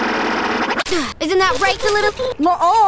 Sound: gasp

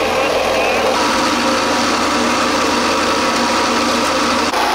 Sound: machine whirring

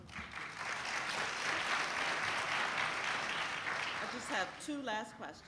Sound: applauding

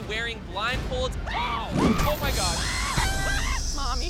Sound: screaming

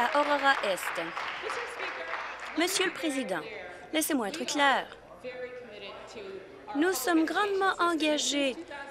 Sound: applause

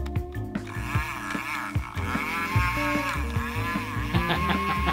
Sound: bubble gun whirring; laughing

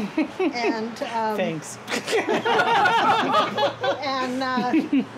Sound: all laugh

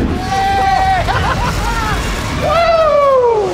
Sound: evil spirit growls; both screaming

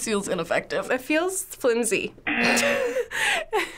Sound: laughing

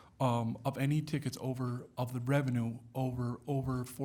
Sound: none

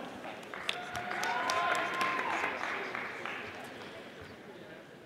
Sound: audience applauding

